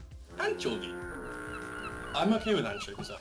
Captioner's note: seagulls squawk; fog horn plays